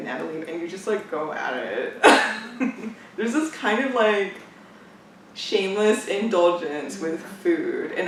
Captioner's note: laughs